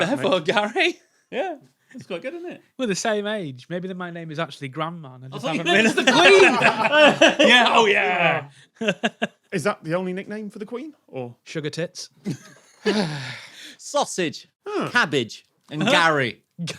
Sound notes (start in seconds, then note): 5.4 group laughing; 8.6 chuckles; 12.4 cracks up; 12.8 sighs